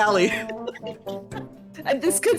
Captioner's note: laughing